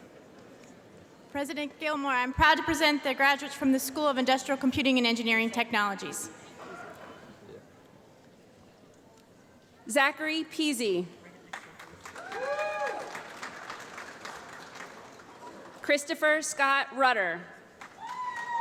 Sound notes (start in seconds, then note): 11.4 applause